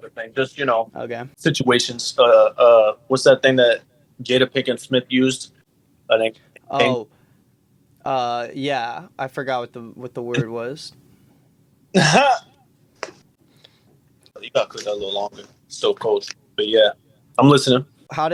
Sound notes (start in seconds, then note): 10.3 laughs